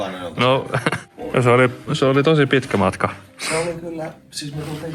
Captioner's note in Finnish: naurahtaa